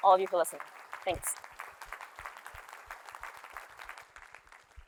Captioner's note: applause